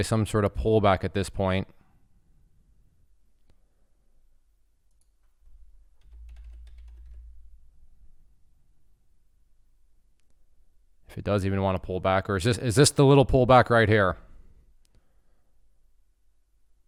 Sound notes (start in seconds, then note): 4.9 mouse clicking; 6.0 keyboard clattering